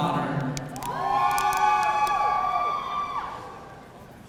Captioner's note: audience cheering